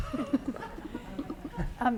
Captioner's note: laughter